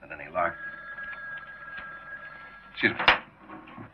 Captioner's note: phone ringing